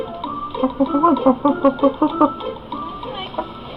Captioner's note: chicken clucking